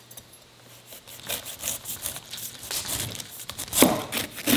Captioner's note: knife slicing